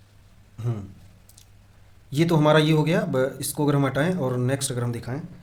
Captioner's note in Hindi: गला साफ़ करने की आवाज़